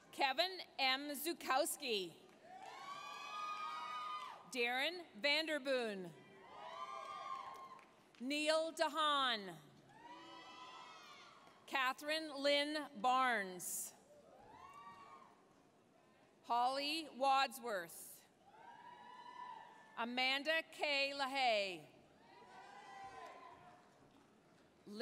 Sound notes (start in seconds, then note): 2.4 applause, cheering; 6.4 applause, cheering; 9.6 applause, cheering; 14.2 applause, cheering; 18.2 applause, cheering; 22.4 applause, cheering